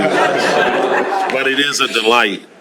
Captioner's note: laughter